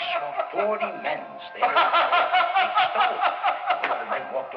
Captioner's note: Arnold continues laughing